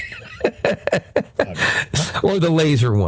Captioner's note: laughing